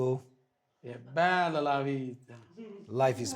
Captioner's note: speaking foreign language